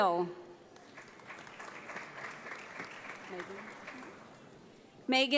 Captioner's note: audience applauds